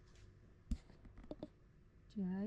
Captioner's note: mic taps